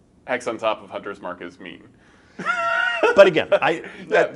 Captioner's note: laughs